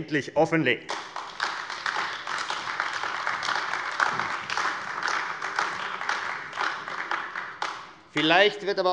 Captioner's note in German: Beifall AfD